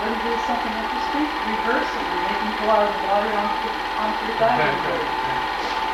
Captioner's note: laughs